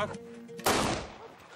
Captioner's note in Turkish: Kurşun sesi